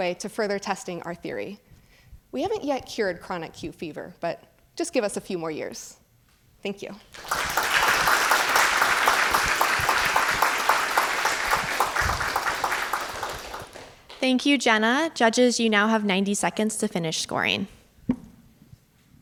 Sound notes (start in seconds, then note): 7.1 audience clapping